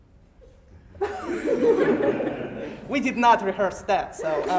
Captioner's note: everyone laughing